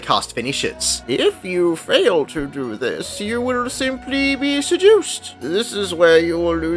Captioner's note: old person voice